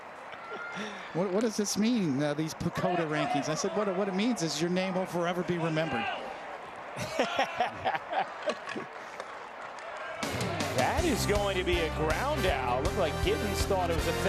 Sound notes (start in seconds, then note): 9.0 laughter